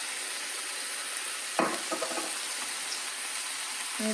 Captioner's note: sizzling; jar clanging; sizzling